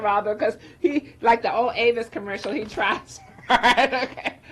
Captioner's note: laughs